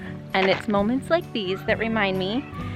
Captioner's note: children exclaiming